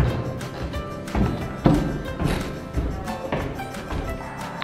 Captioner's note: footsteps